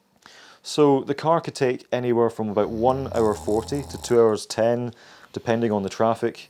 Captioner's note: background snoring noises